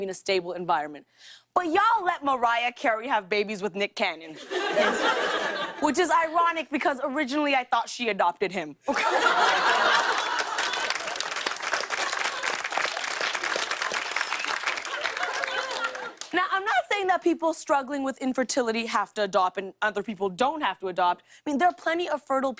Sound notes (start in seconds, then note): 4.4 laughter; 8.9 laughter and applause